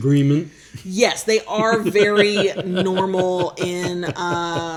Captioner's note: laughs